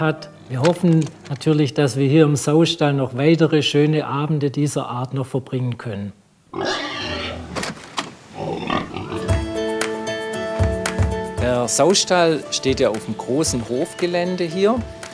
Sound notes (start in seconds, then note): 6.5 grunting; 8.9 idyllic music